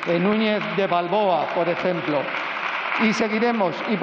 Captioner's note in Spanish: Aplausos